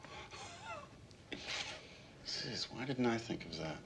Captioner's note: chuckles